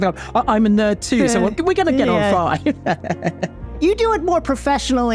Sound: laughs

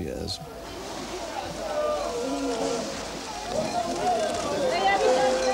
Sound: non-english speech

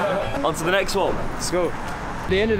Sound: laughing

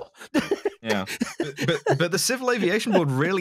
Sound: laughs

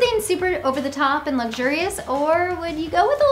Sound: hands tapping

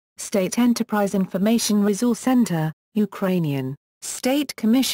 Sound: Ukrainian

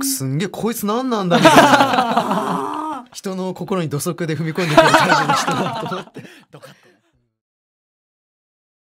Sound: laugh

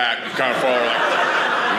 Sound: audience laughing

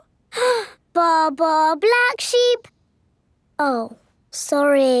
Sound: inhales

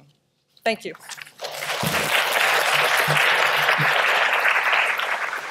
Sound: audience clapping

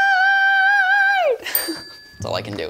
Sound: bell dings

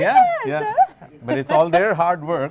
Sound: laughter

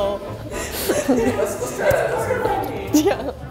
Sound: laughs; friendly chatter; playful instrumental music

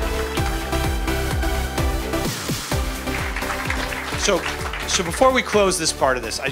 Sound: applause

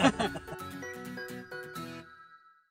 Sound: group laughing

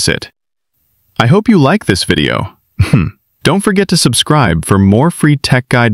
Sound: chuckles

